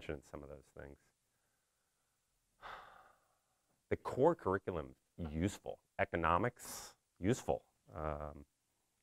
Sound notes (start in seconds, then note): 2.6 sighs